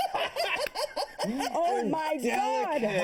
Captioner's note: laughter